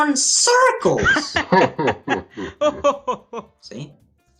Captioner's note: laughs